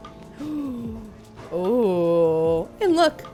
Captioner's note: gasps